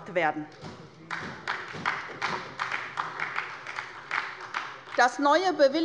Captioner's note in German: Beifall bei Abgeordneten der SPD